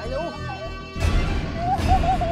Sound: groans

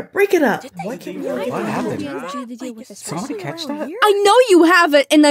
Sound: crowd mumbles

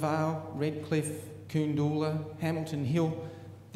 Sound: foreign word spoken

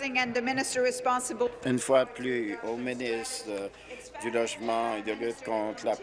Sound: speaking in French

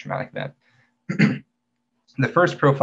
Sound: clears throat

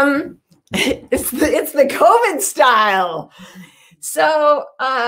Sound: chuckles

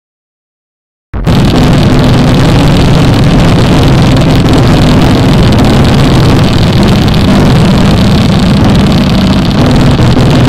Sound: sound of hail

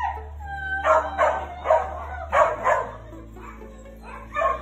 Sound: dog barks

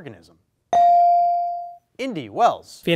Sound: bell dings

